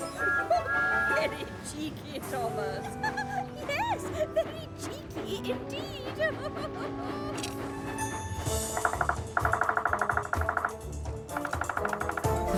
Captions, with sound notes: - VERY CHEEKY, THOMAS! - YES, VERY CHEEKY INDEED! [bird pecking, rattling]